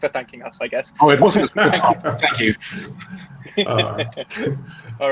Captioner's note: all laughing